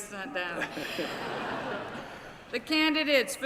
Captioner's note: laughter